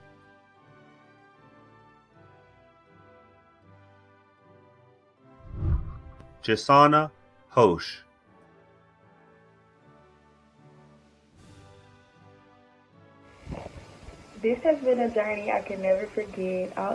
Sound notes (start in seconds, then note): 0.2 celebratory music; 5.4 whooshing; 8.5 celebratory music